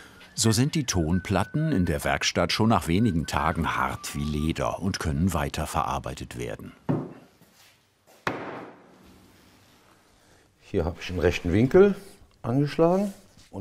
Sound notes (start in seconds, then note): 8.3 bang